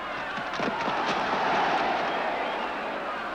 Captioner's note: crowd shouts "ole"